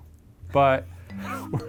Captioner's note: Ryan laughs